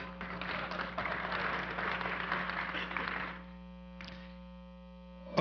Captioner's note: audience applause